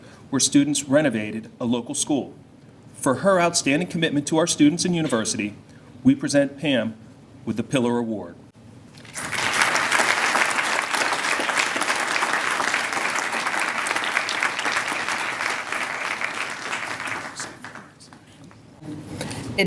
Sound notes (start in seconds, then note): 9.1 applause